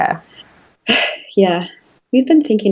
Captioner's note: sighs